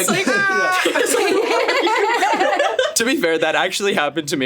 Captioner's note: all laughing